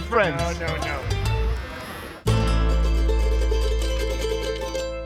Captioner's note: shaver buzzing